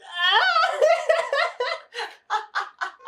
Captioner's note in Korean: 핫핫핫핫